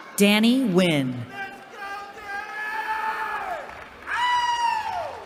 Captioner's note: cheering